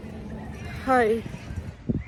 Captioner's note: scared